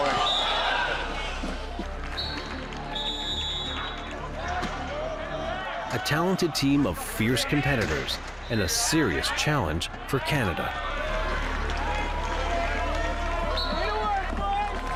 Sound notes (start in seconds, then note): 2.9 whistle; 11.1 cheering